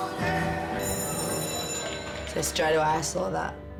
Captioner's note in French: cloche sonne